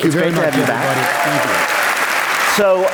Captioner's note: applause